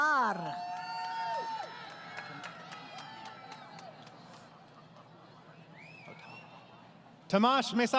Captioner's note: crowd Cheering